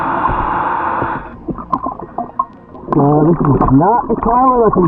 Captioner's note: air wheezes